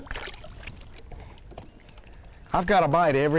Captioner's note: fish splashing